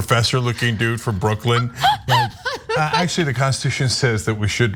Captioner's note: laugh